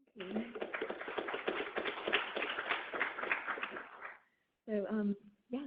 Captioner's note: audience applauding